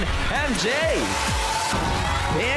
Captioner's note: audience applauding